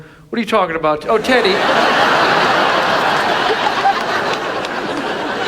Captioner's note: audience laughs